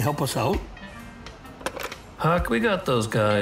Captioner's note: phone picked up